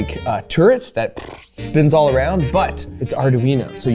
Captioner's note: flaps lips